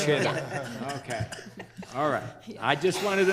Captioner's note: all laughing